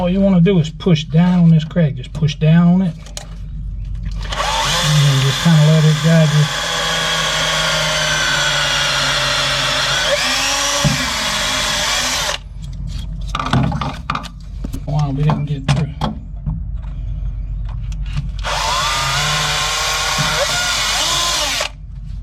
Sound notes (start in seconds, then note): 6.4 more Drilling